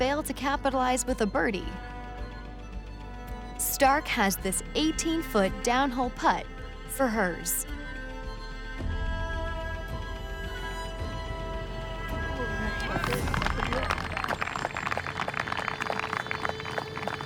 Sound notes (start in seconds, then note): 10.8 dramatic music; 11.8 crowd applauds